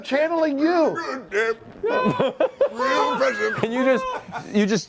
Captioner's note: strained voice